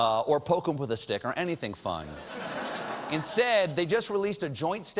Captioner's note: laughter